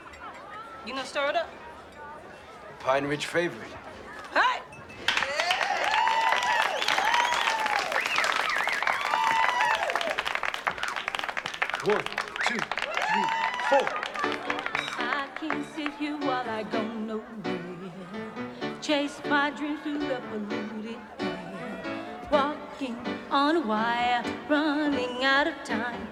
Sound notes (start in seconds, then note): 5.0 applause, Cheering; 7.7 whistling